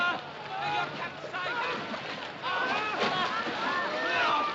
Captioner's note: Gritando